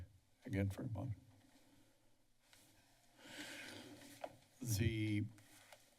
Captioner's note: silence